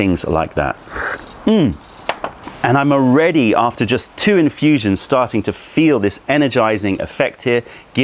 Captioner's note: sips tea